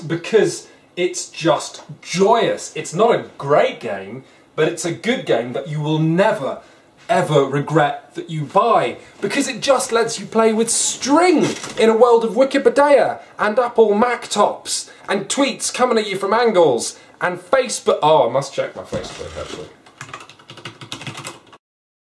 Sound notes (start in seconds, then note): 19.8 typing